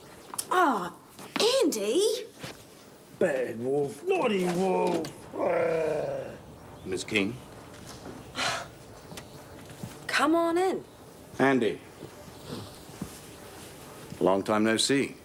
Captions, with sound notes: Oh, Andy! - Bad Wolf, naughty Wolf! (Wolf growls) - Miss Keane. (Jodie sighs) - Come on in. - Andy, long time, no see.